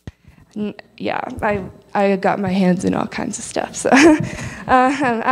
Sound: laugh

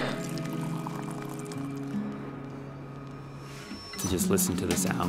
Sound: tea pouring into cup

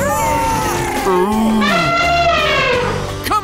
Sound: screaming; animal noises

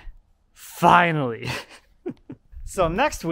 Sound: laughs

